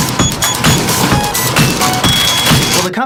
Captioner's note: beep beep beep; beep beep boop boop ding